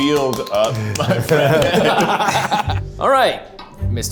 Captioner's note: laughs